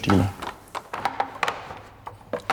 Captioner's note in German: Knarzende Geräusche